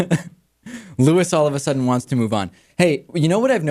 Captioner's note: laughs